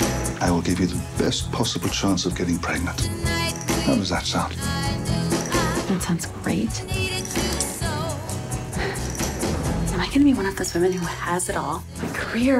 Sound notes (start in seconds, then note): 8.3 exhales